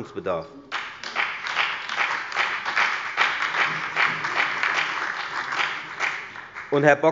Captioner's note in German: Beifall bei der FDP, der SPD und der LINKEN